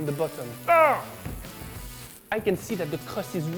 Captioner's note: grunting